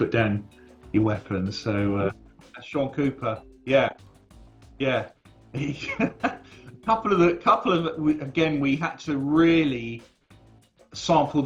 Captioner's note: laughs